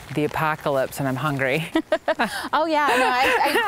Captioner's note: softly laughs